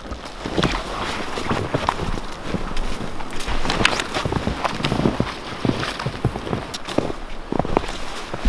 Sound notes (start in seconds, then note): 0.0 footsteps rustling in snow